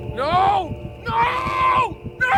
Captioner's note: heartbeat thumping rapidly